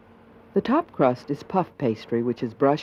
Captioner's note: voiceover